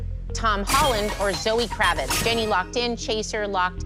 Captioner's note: chime, chime